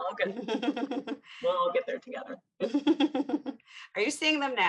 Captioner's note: chuckles